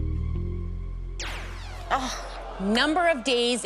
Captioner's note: zap